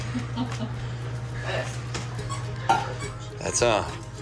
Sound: chuckles

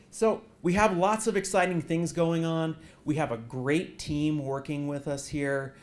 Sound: none

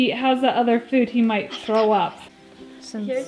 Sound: whispering

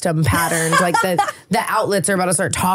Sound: laughing

